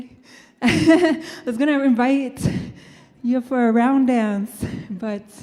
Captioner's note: laughing